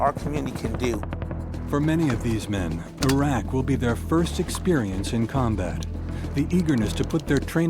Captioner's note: voiceover